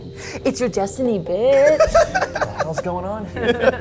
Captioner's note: laughs